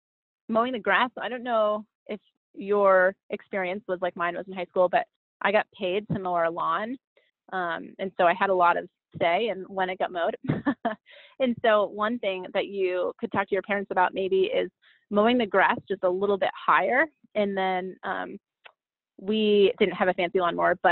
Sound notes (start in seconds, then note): 10.4 chuckles